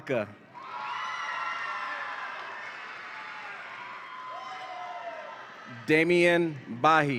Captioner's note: audience applauds and cheers